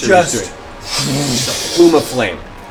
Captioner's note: fwoosh